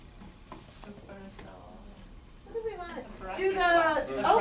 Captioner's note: student answers softly